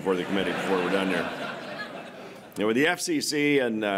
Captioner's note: laughter